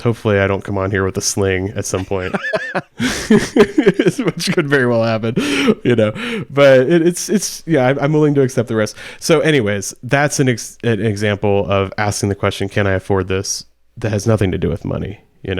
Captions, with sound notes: Hopefully I don't come on here with a sling at some point, (laughs) which could very well happen. Yeah, I'm willing to accept the risk. So, anyways. That's an example of asking the question, can I afford this that has nothing to do with money.